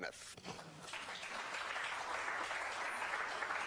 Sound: applause

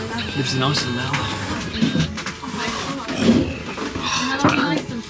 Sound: sighs

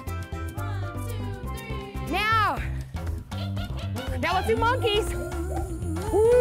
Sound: chimpanzee cry

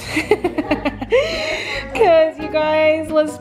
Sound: laughing

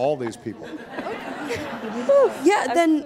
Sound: audience laughing

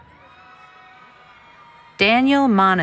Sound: cheering

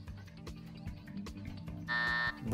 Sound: buzzer

